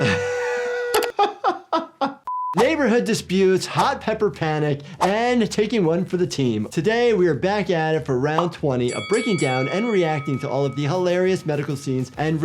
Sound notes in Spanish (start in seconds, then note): 0.0 se ríe; 8.8 suena la campana